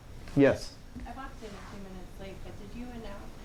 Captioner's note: voiceover